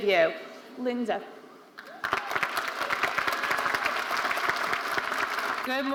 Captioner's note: audience applauding